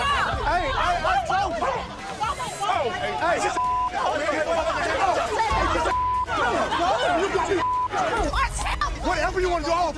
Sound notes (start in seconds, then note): 3.9 arguing, yelling